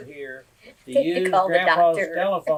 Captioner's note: laughter